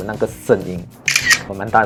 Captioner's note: Sound from iPhone XR